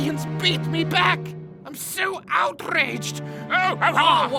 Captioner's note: angry "oh"ing